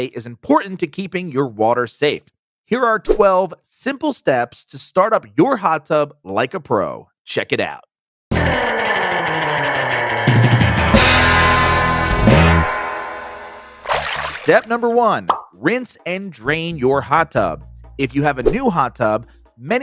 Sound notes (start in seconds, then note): 8.3 upbeat music; 13.8 water splashes